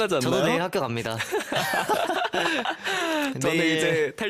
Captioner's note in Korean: 웃음